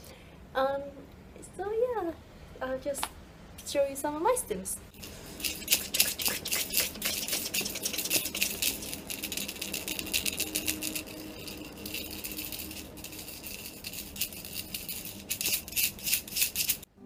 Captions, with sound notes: So yeah, I'll just show you some of my stims (rattle noise and me imitating it)